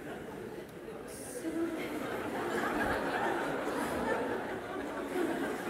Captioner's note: Lachen